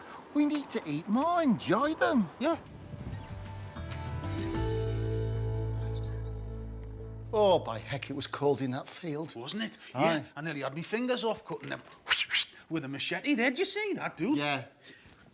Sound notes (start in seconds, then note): 3.2 upbeat music; 12.1 imitates machete whooshing